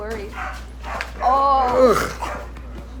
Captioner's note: disgust noises